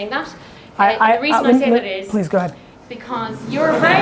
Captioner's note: Gary stutters; audience laughing